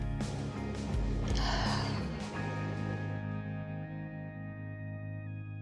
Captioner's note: sigh